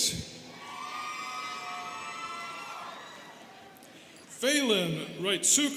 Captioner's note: students cheering